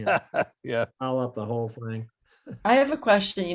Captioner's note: laughs